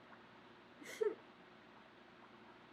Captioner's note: laughs